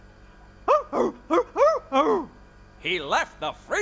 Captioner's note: affirmative bark; barking